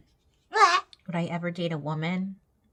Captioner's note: vocalizing